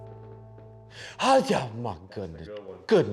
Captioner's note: mutters painfully